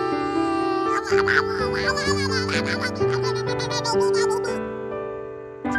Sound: random gremlin noises

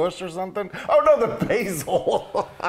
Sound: laugh

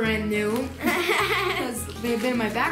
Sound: laughing

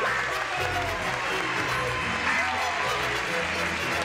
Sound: cheers and applause

